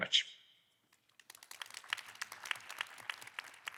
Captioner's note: applause